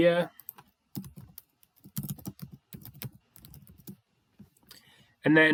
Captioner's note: keyboard clacking